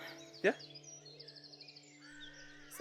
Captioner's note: birds chirping